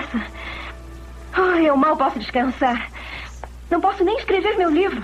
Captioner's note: sighs